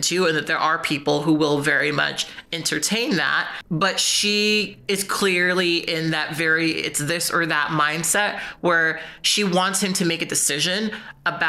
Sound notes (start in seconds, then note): none